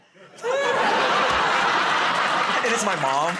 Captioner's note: laughter